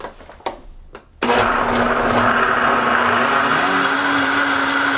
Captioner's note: whirring